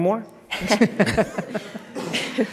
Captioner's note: laughter